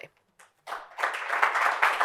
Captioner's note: applause